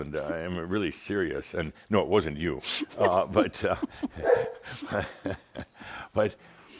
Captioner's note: they chuckle and Belle barks